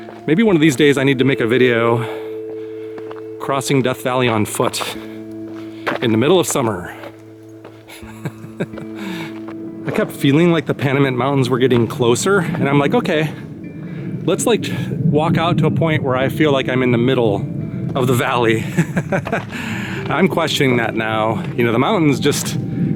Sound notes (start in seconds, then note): 8.0 laughter; 18.6 laughter